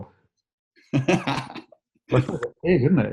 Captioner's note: laughing